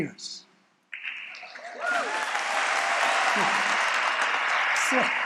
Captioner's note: applause